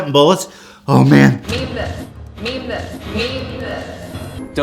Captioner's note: echoing